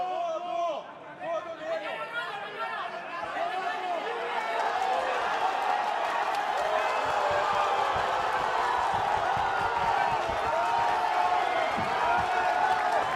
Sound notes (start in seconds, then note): 5.4 cheering